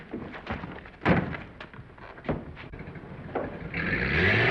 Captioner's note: door slamming; engine rumbling